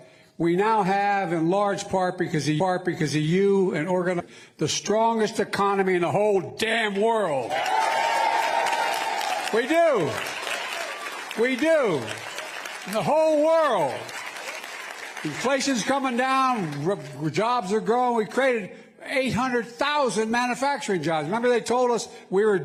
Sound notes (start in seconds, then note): 16.7 applause